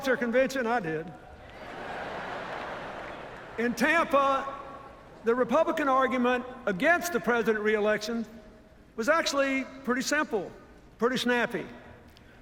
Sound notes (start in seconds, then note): 1.6 laughter